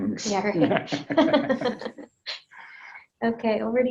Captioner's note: laughs; both laughing